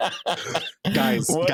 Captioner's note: laughing